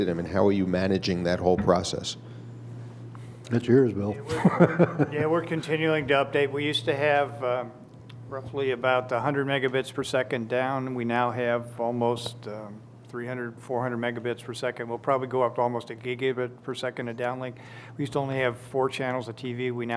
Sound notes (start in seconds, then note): 4.3 laughing